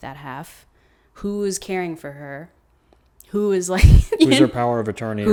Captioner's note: laughing